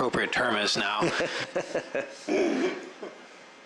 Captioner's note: laughter